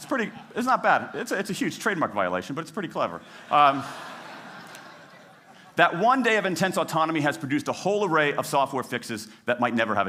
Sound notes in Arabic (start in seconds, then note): 4.9 ضحك